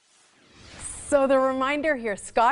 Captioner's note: whoosh